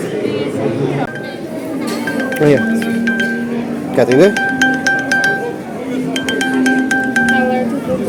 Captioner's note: cell phone ringing